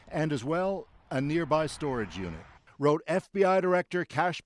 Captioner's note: sirens